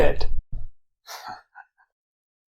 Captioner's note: chuckles; long intentional silence